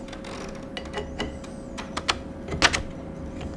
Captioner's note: working noises